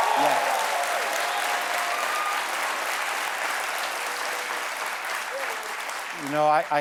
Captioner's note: cheers and applause